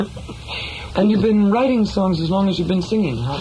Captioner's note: voiceover